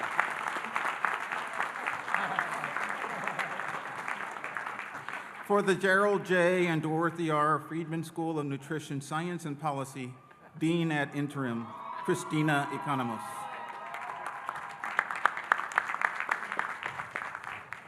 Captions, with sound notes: (audience laughing) - For the Gerald J. and Dorothy R. Friedman School of Nutrition Science and Policy, Dean ad interim Christina Economos. (audience cheering and applauding)